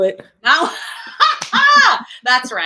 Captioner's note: laughing